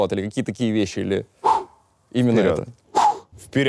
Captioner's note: exhales